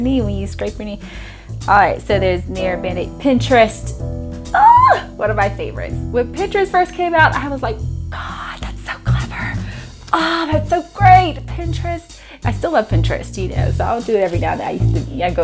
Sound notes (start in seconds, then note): 4.5 squeals